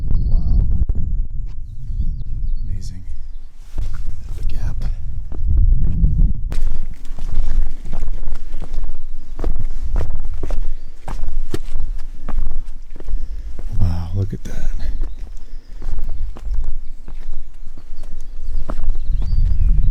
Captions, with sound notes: Wow! Amazing. The gap. (footsteps pattering) Wow, look at that. (footsteps pattering)